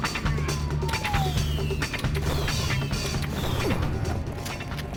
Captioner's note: guns blasting